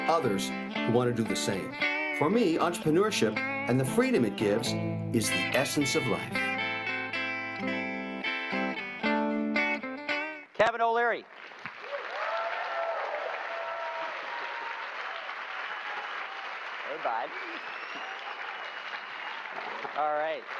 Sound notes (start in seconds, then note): 4.7 electric guitar; 9.4 applause